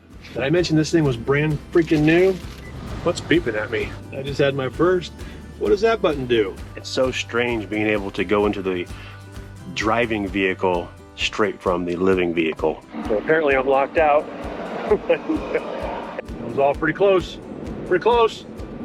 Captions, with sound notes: - Did I mention this thing was brand freaking new? What's beeping at me? I just had my first, "What does that button do?" It's so strange being able to go into the driving vehicle straight from the living vehicle. So apparently I'm locked out. (chuckling) It was all pretty close, pretty close.